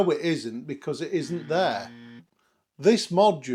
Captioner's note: buzzer